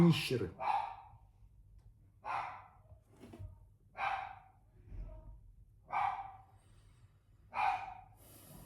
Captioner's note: dog barks